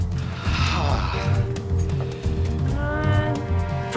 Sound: gasps

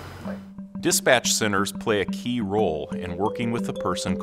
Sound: voiceover

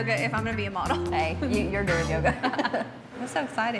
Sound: both laughing

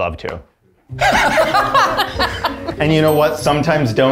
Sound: all laughing

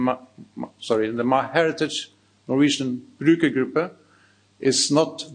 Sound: speaks in foreign language

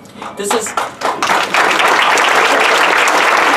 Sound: applause

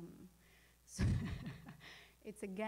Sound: laughing

